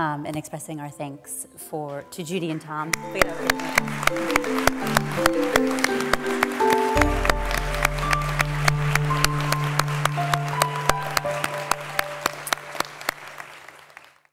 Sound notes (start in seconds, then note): 3.5 applause